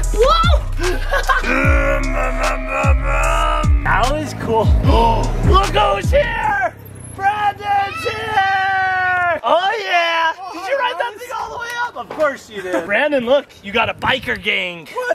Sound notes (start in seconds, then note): 0.5 laughing; 1.7 imitating car revving